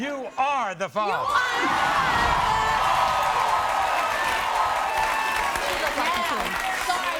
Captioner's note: crowd cheering